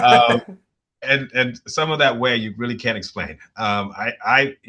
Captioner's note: laughter